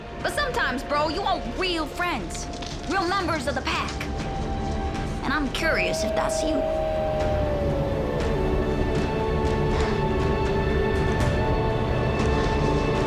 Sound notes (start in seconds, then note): 5.3 wolves howling